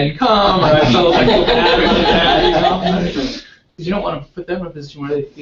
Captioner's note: laugh